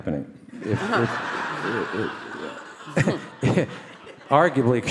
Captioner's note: audience laugh